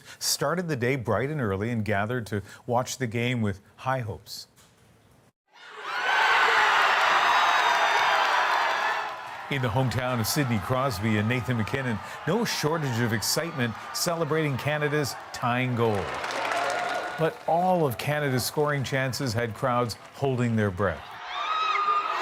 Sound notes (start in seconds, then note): 6.0 cheers and Applause